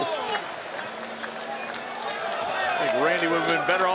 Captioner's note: applause